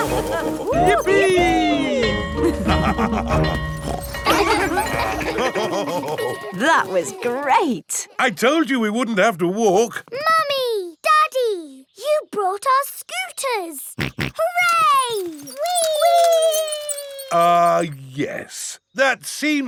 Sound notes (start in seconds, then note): 0.0 both laughing; 2.5 school bell ringing; 4.3 daddy pig snorts; 5.4 children laughing; 5.4 daddy pig laughing; 14.0 snorts